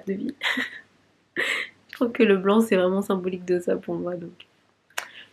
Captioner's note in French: rires